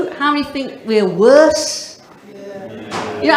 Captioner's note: audience murmurs